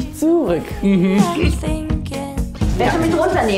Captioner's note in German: Räuspern